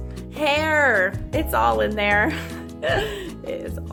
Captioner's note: laughs